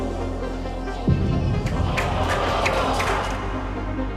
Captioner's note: crowd groans